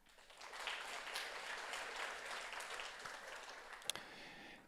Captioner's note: audience applauds